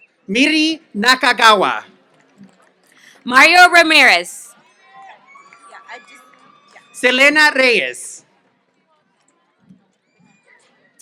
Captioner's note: applause